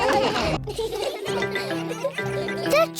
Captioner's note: all laughing; laughter